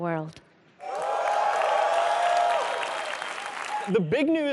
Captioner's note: audience cheering